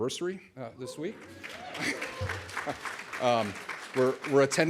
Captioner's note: audience applauds